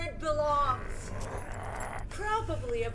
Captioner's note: Brocheet growls